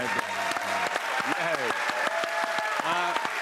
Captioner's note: cheers and applause